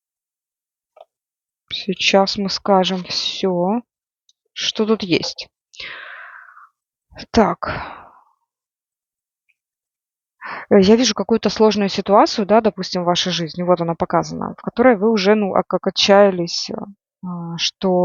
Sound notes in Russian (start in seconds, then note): 5.8 вздыхает; 5.8 тяжело вздыхает